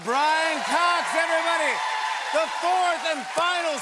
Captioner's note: cheers and applause